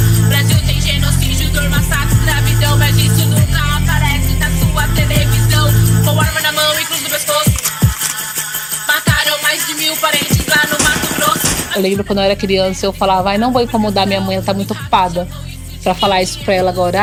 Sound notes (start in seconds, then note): 7.4 gun click; 10.2 shots